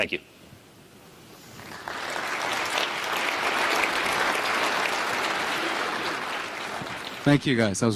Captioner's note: applause